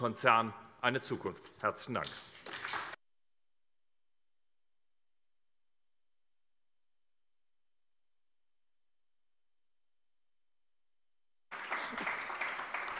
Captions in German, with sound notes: eine Zukunft. - Herzlichen Dank. [Anhaltender Beifall bei der SPD]